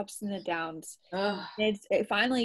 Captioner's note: groans